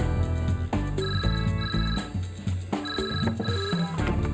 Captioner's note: phone ringing